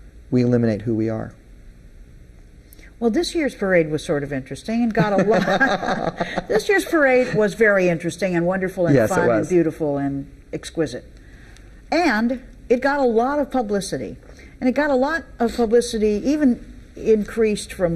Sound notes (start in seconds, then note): 5.0 both laughing